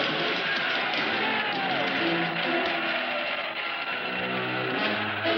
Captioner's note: cheers